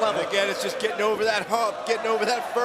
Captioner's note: crowd cheering